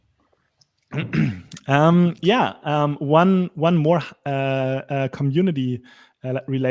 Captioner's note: laughs; clears throat